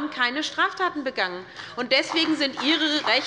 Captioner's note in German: Beifall bei der SPD